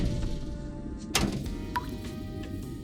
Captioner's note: clang and drop